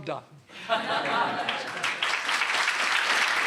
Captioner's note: laughter; applause